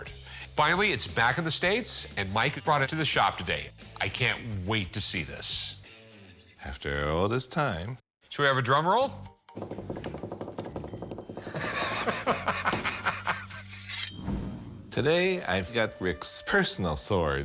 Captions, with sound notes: Finally, it's back in the States, and Mike brought it to the shop today. I can't wait to see this. - After all this time. - Should have a drumroll? [fingers tapping] [laughs] - Today I've got Rick's personal sword.